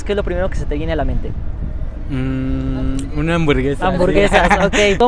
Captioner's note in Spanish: risas